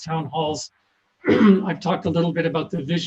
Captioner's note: coughs